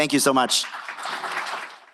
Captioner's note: applause